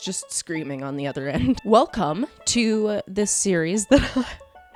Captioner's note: laughs